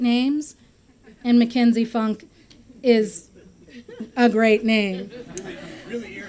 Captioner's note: laughter